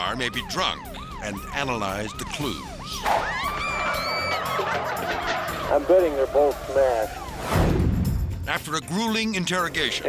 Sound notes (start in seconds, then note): 3.2 sirens blaring